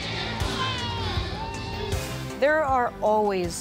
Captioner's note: crowd cheers